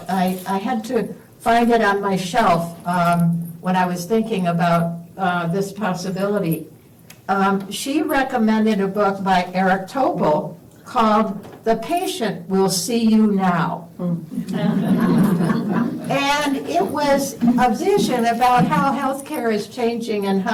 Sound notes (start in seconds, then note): 14.3 laughter